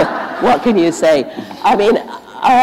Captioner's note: laughter